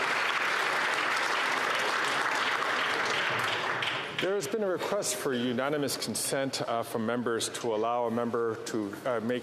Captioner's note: applause